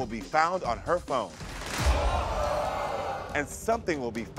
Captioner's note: audience groans